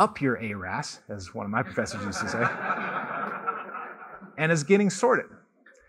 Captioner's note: laughter